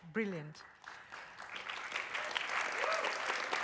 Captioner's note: applause